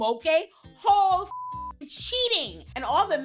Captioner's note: beep